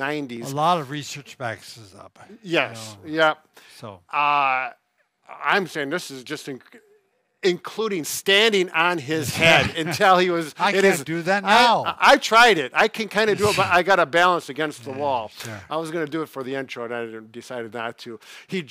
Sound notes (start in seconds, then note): 9.3 chuckling